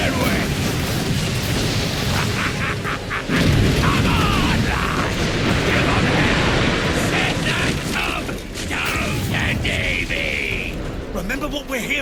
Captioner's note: laugh